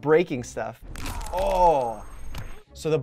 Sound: bones cracking heard previously

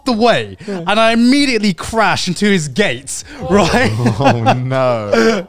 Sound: laughing

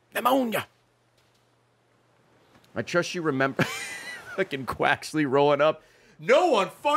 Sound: laughs

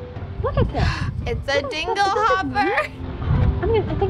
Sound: gasps

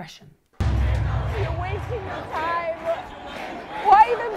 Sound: crowd chants

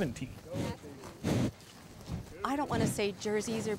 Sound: cow snorting

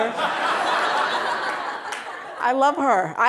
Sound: audience laughing

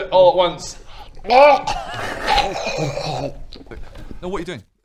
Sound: gagging noises

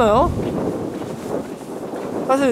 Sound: cutting wind

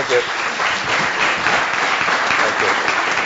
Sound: applause

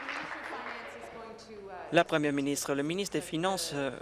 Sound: applause

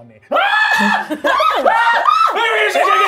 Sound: screams

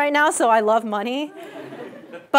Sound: laugh

